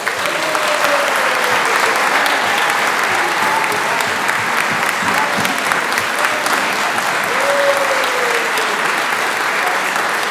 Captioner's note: applause